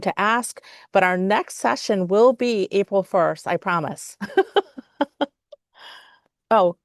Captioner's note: laughs